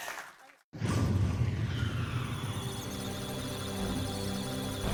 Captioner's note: applause; electronic sounds of data; musical tones